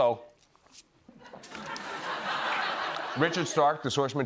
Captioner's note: laughter